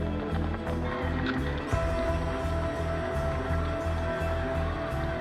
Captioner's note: camera clicking, audience cheering